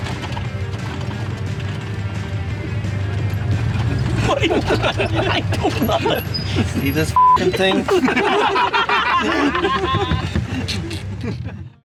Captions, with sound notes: What are you doing? I don't know. See this ****ing thing? (laughing)